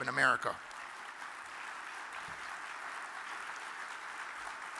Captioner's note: audience claps